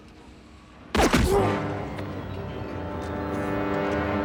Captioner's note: grunts